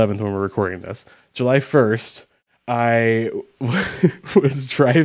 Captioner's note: chuckles